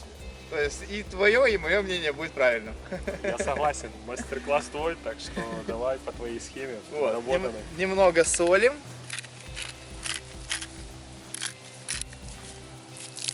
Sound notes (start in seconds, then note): 2.6 laugh; 9.3 salt grinder cracking